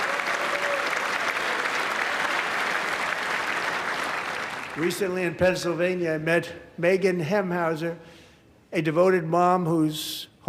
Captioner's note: applause